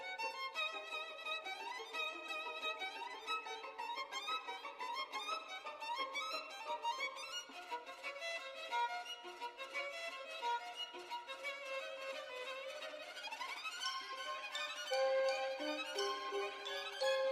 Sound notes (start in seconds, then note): none